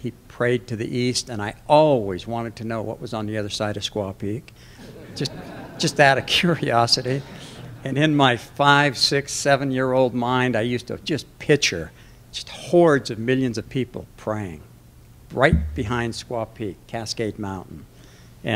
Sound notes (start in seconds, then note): 4.8 laughter